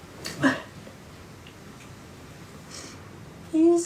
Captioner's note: Gina crying